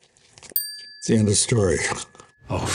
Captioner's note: bell dings